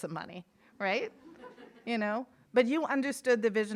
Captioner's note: audience laughing